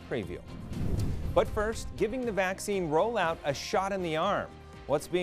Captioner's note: air whooshing